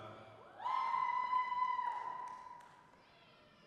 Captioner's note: audience cheering